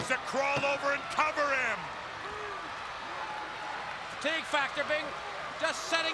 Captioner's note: crowd chatters